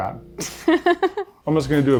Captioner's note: laughing